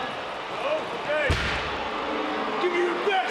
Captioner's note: crowd boos